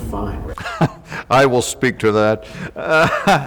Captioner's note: laughs